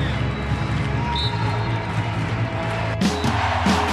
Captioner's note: crowd cheers; whistle blows